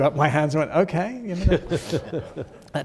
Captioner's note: chuckling